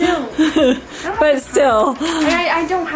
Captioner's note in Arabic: تضحك